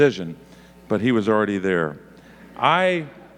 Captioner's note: audience laughing